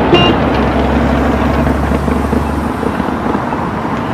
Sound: car horn beeps once; traffic rumbles

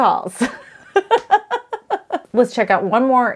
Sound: laughs

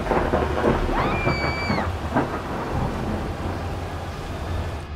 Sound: screaming

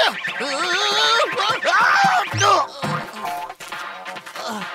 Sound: screaming

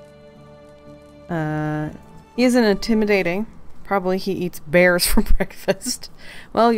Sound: laughs

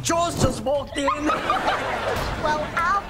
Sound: laughing

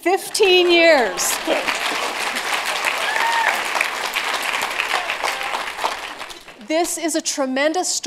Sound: applause

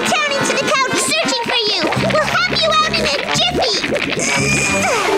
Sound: grunting

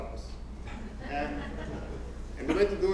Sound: laugh

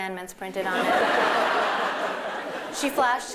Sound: laughter

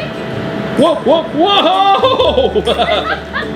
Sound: laughs

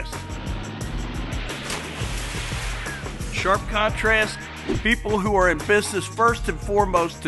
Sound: splash

